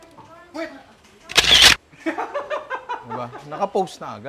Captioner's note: camera shutter clicks